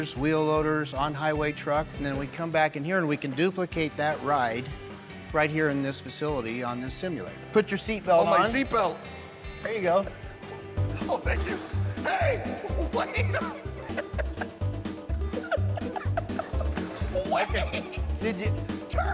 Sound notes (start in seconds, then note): 10.3 laughing; 14.4 laughing